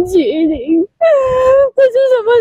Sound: weeping

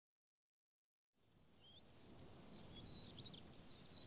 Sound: birdsong

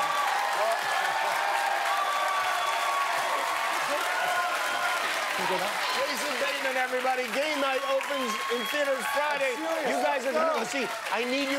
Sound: cheers and applause

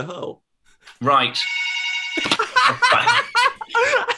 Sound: phone rings; laughter

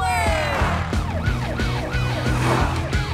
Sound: siren wailing

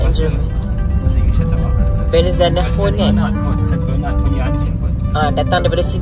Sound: speaking German

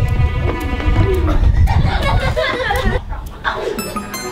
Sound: boys laughing; sneaky music

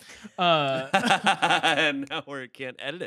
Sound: laughing

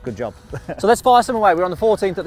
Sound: chuckles

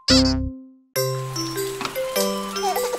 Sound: lively music; rain pattering; chuckling; door creaking

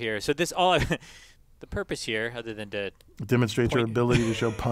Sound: laugh

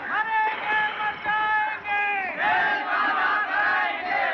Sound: none

